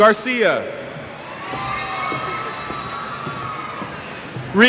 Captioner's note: cheers